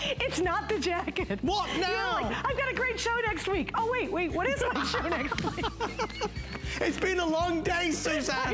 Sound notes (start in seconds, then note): 4.6 laughter